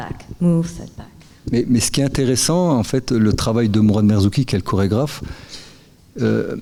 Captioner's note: speaking in French